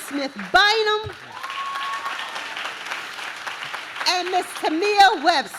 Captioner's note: audience claps